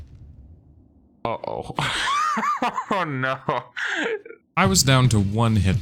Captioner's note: laughing